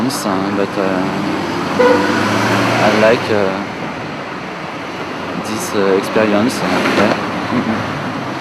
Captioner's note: in english french